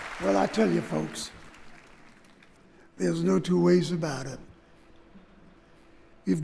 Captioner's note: applause